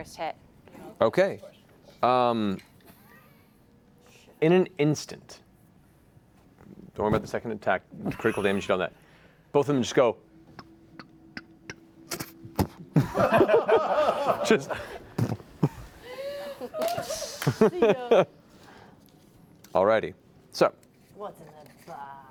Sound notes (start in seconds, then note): 12.1 footsteps; 12.3 thud; 12.9 laughter